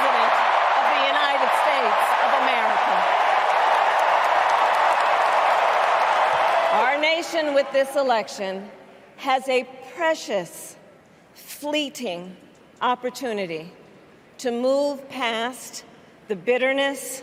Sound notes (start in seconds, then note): 3.8 applause